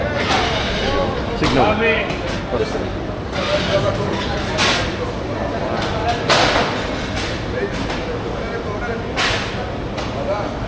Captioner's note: crowd chattering